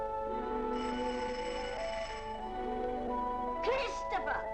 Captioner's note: doorbell rings